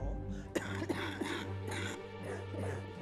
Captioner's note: coughs